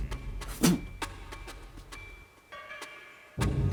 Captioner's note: spits; tense music